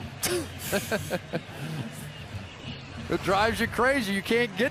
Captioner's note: laughs